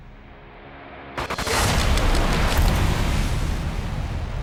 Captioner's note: static glitches